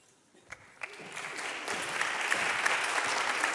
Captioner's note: applause